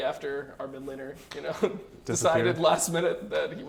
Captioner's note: laughs